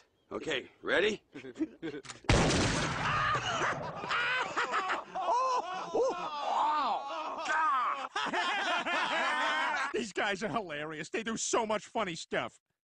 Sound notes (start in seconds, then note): 1.3 giggle; 2.2 gun blast; 3.0 all laughing louder; 8.2 all laughing